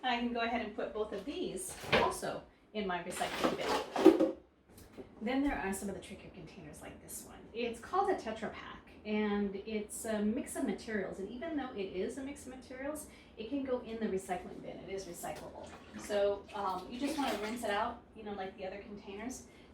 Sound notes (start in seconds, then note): 3.8 plastics and papers crumpling; 15.3 water flashing